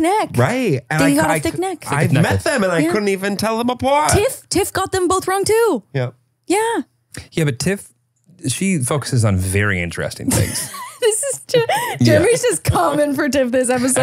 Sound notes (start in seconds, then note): 10.3 laughs